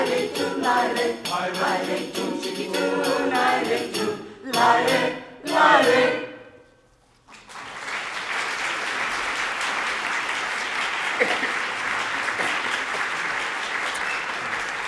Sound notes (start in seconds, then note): 7.3 audience applauding